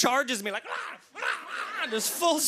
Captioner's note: imitating dog barking